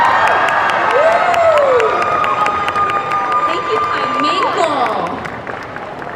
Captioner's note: applause